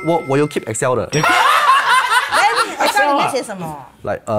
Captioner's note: laughs